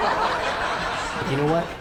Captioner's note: laughing